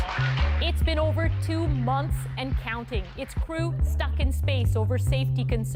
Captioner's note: applause